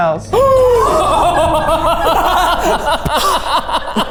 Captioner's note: everyone laughing